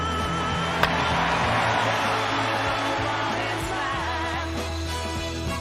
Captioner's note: cheering